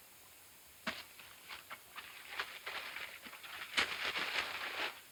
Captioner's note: paper rustling